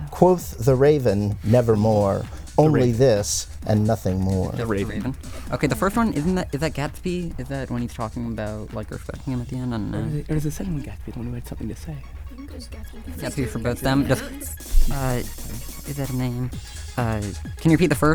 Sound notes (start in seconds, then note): 4.6 whispering